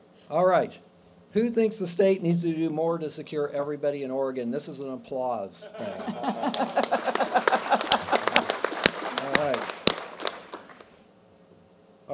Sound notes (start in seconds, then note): 5.7 laughing; 6.2 applause